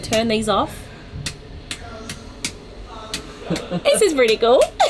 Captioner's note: light switch clicking; laughing